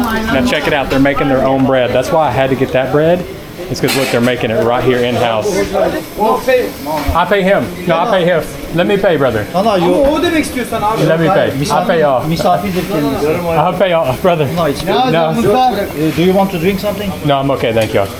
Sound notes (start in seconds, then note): 10.2 speaking Turkish